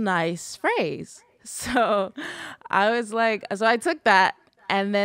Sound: laughs

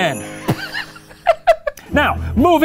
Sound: laughs; tense music resumes

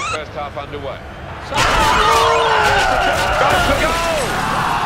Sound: players groaning; crowd roaring loudly

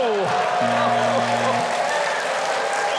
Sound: buzzer sounds; audience cheering

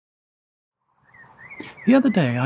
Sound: birds chirping

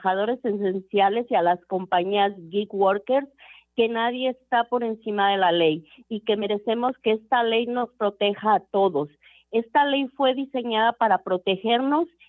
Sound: speaking foreign language

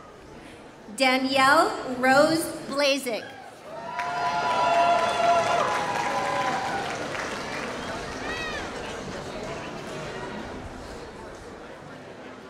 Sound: applause

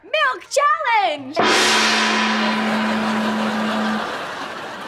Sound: banging

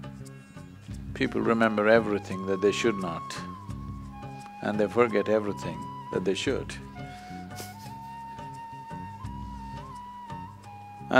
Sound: laughs

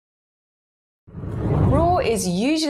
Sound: screen whooshes

